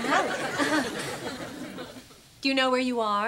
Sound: <i>chuckles

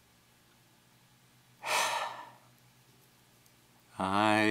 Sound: loud sigh

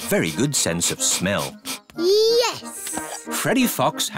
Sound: sniffs

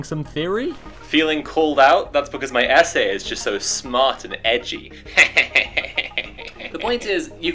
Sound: snarky laughter

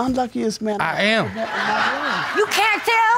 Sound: audience laughing

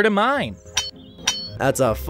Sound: metal clanks

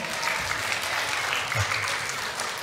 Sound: congregation applauding

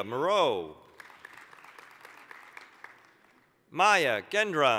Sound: applause

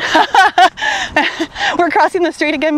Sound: laughing

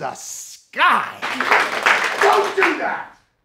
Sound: class applauding

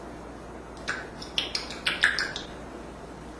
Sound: smacking sounds

